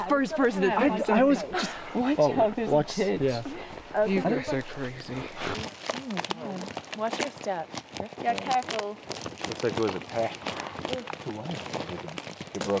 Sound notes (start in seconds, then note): 2.2 all chattering